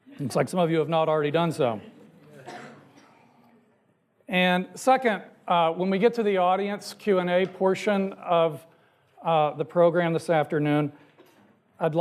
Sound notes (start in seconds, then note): 2.1 audience chattering